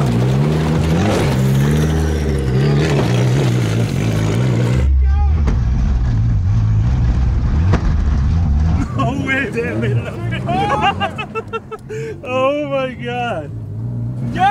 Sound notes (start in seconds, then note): 11.4 laughs